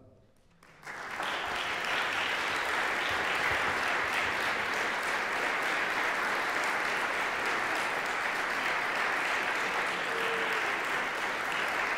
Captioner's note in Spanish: publico aplaudiendo